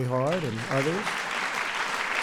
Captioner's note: applause